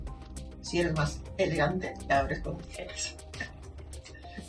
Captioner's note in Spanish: sonido: risa